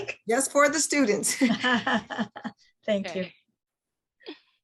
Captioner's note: laughs